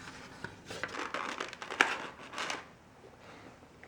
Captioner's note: styrofoam noises